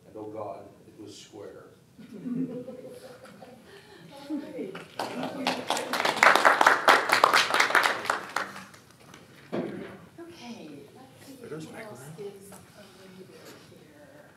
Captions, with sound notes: and oh god, it was square." (applause) - Okay, let's see who else is available here.